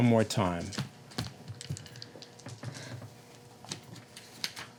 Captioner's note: rattling dice